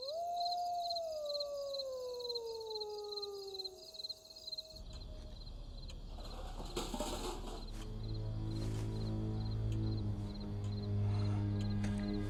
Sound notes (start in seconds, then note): 0.0 wolf howling; 0.2 crickets chirping; 6.2 trash cans rattling; 8.8 light dramatic music